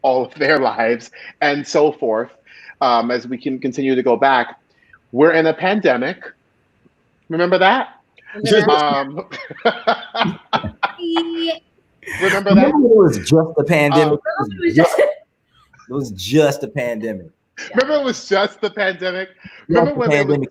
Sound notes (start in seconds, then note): 8.4 laughing